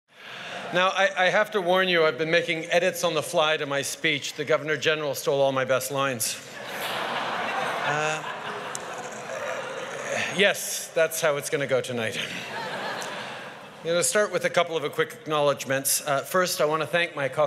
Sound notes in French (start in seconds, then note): 6.5 Rires; 12.2 Rires